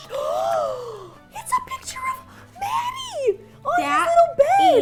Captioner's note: gasping